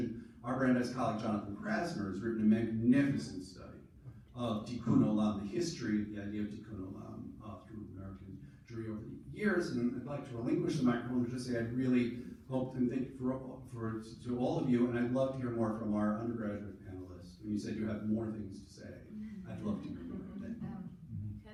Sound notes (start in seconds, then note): 5.1 foreign language